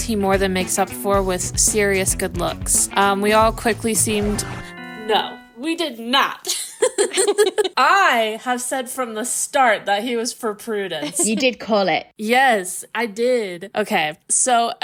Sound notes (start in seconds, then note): 4.1 record scratch; 4.7 chime; 6.5 laughing